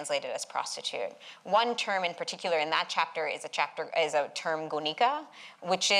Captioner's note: non-english